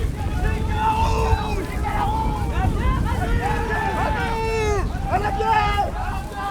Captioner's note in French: cris de victoire